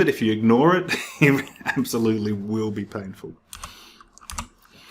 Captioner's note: chuckles